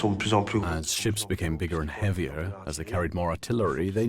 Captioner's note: voiceover